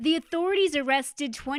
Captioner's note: speaking alternate language